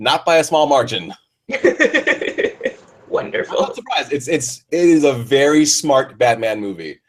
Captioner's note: laughs